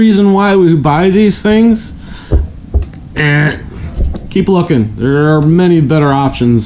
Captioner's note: buzz sound